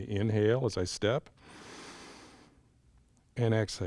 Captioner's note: inhales